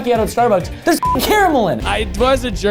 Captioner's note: beep